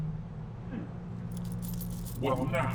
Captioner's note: coins clinking